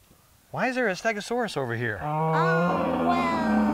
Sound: stegosaurus roars

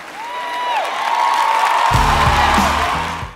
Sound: cheering and applause

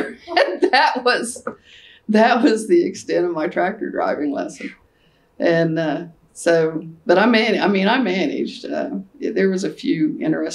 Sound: laughter

